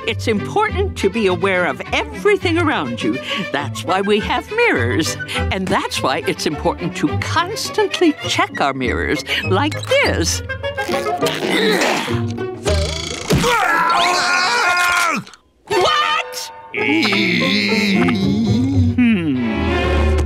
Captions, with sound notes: it's important to be aware of everything around you. That's why we have mirrors. And that's why it's important to constantly check our mirrors, like this. [screaming] What? [groaning] Hmm.